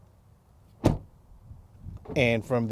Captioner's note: door clicks